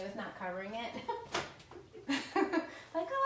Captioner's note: laughs